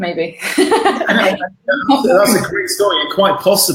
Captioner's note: laughing